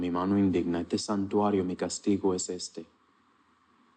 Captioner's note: Spanish speaking